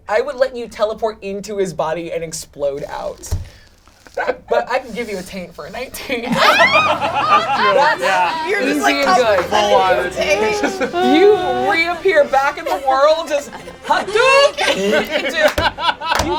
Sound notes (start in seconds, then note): 6.5 all laugh; 8.0 overlapping excited chatter